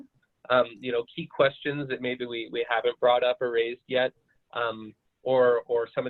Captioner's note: glitch interferes with audio